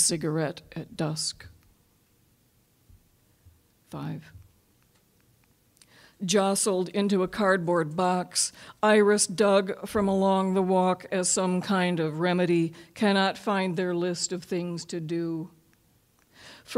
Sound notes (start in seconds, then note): none